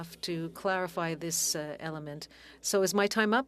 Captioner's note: speaking French